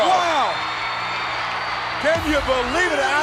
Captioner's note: audience cheering